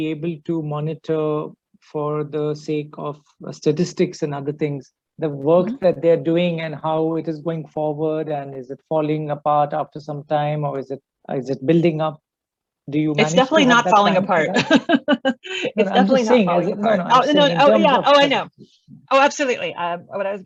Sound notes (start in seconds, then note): 13.2 laughs